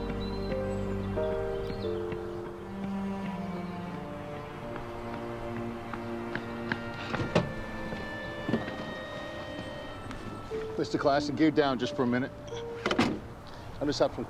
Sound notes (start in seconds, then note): 0.2 gentle upbeat music; 3.0 birds chirping